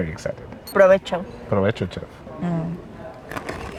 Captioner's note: speak in Spanish